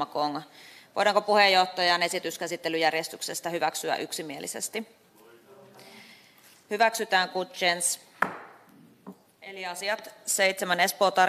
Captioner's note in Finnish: nuijan kopautus